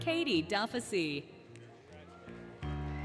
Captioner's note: applause, Cheering, Music